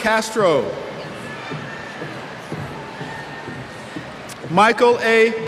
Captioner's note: cheers